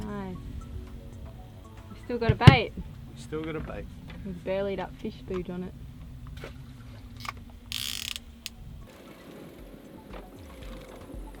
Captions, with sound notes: - Nice, you've still got a bait. - Still got a bait. - With burlied up fish food on it. (fishing rod reeled in)